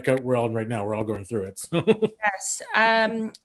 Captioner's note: laughs